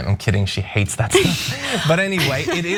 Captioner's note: laugh